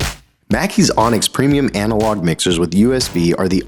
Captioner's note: voiceover